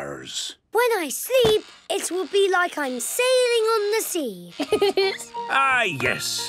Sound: laughing

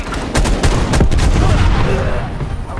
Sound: gunshots

